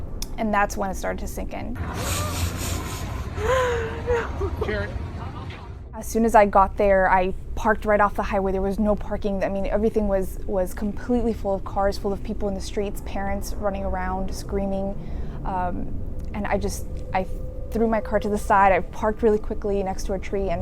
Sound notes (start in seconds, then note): 1.9 woman sobbing